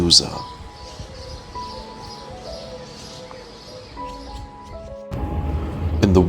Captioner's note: birds chirping